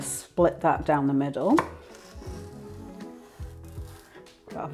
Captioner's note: crispy slicing